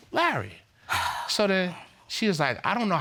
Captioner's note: sighs